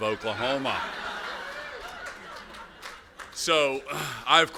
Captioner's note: laughter